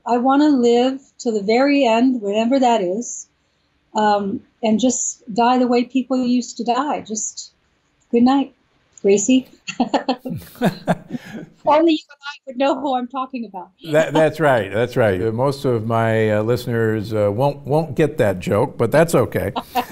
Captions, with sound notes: I want to live to the very end, whenever that is, and just die the way people used to die. Just, "Goodnight, Gracie." (laughs) (laughs) Only you and I would know who I'm talking about. - That's right, that's right. Most of my listeners won't get that joke, but that's okay.